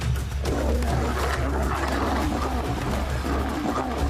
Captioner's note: lionesses growling